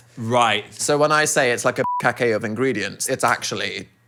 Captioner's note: beep